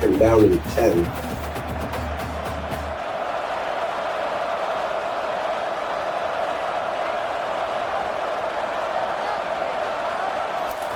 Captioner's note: crowd Noises